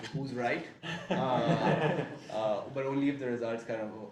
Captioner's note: laughing